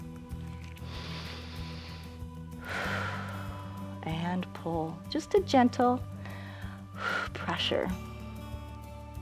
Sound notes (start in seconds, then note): 0.6 inhales and exhales